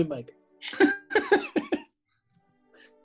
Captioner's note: giggling